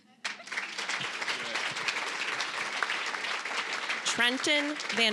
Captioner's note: applause